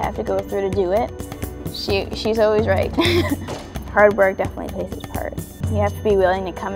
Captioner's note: laughing